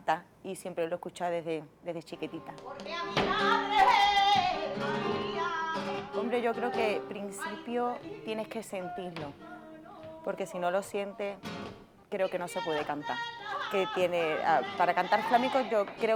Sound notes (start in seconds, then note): 6.3 speaking spanish